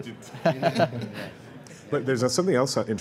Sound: laughter

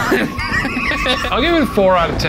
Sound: laughing

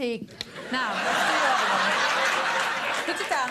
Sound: audience laughs

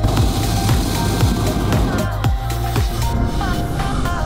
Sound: fire roaring; upbeat music

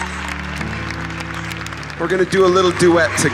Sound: applause

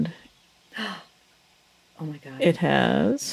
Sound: gasps

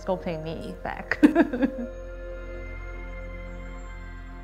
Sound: laughing

